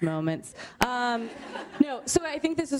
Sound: laughter

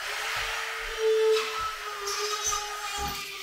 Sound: saw whirring

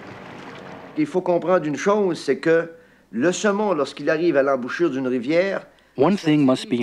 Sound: speaking in foreign language

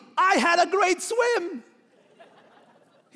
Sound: laughing

